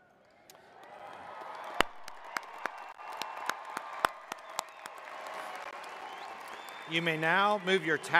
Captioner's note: cheers